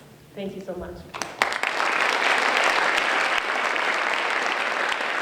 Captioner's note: applause